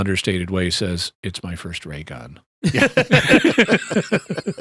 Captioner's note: laughter